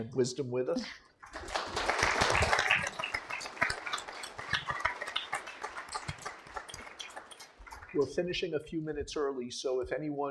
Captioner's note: applause